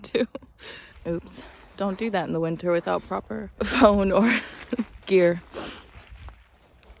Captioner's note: chuckles; chuckles; sniffles